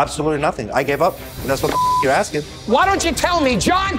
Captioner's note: beeps